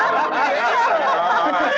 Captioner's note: laughter